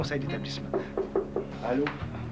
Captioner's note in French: Petits coups sur la porte